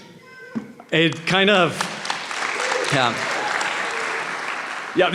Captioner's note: applause